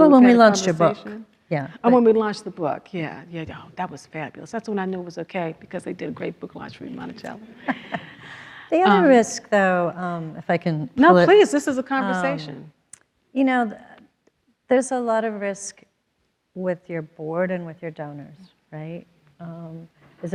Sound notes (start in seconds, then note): 7.5 everyone laughs